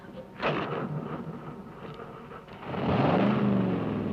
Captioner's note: engine revving